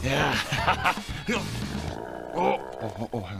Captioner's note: gassy noises